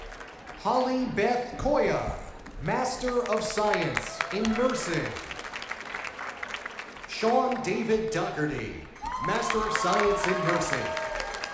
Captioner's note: cheers and applause